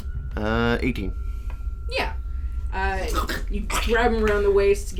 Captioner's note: "yeah thats good enough" voice